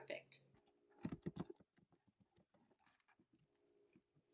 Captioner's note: keys clacking